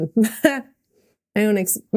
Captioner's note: Mikaela laughing